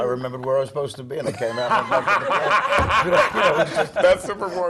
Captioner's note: laugh